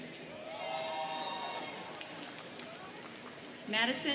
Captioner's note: students cheering